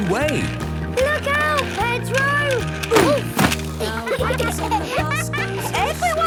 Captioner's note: laughter